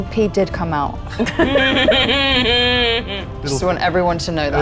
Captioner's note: group laughs